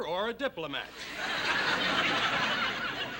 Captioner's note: laughter